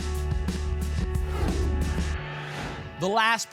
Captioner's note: whoosh